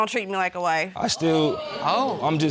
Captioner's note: audience exclaiming